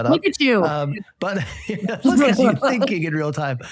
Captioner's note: panelists laugh